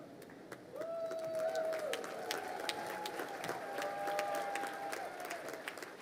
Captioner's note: crowd cheering and applauding